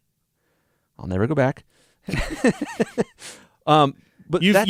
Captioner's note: laughs